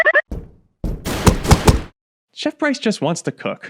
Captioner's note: gun shots fire